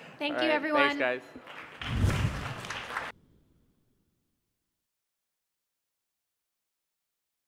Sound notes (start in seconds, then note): 1.4 applause